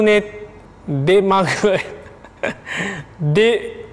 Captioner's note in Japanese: 咳き込みながら笑う